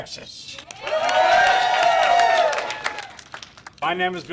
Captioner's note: group applauds; group cheers